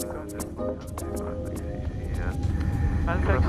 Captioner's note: radio chatter